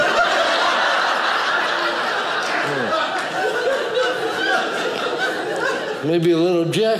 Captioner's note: audience laughing